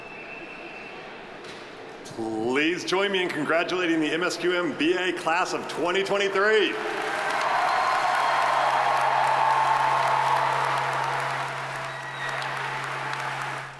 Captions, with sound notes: - Please join me in congratulating the MSQM:BA class of 2023. (audience applauding) (audience cheering)